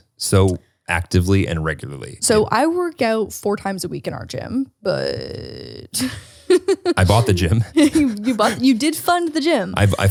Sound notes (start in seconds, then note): 6.4 laughs